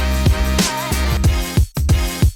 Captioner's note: none